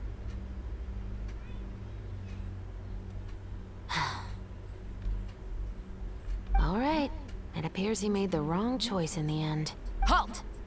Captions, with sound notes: [sigh] All right. It appears he made the wrong choice in the end. Halt!